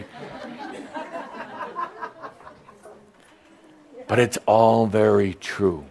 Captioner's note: some chuckles